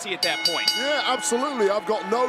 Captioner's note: bell rings